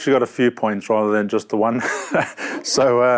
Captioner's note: laughs